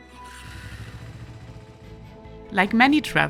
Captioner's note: motorcycle engine revving